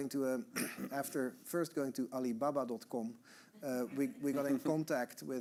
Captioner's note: audience chuckling